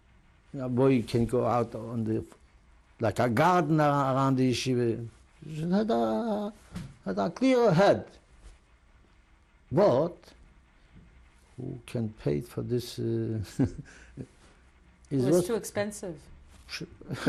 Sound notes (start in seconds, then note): 13.4 laughs